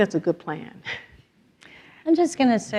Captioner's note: laughs